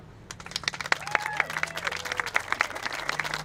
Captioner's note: applauding